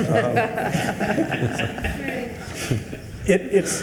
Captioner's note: attendees laughing